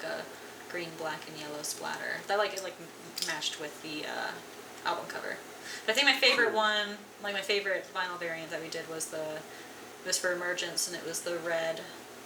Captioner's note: tshhh